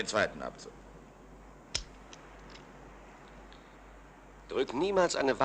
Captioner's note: gun clicks